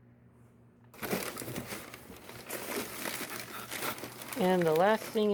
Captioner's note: crinkling of wrapping paper